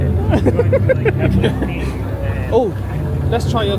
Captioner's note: laughs